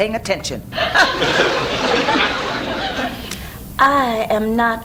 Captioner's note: audience laughs